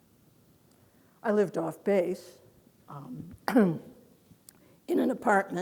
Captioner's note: clears throat